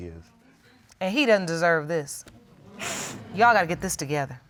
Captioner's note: sniffles